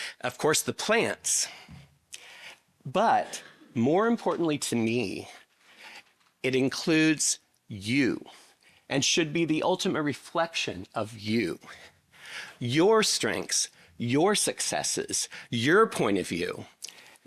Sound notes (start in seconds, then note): none